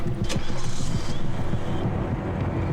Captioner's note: seatbelt clicks; engine starts